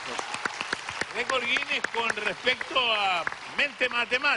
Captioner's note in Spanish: Aplausos